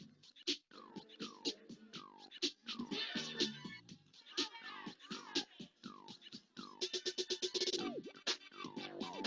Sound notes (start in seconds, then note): 0.1 upbeat music; 3.3 chattering; 6.5 upbeat music